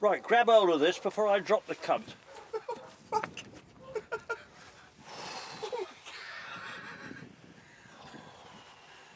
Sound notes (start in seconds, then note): 3.8 laughs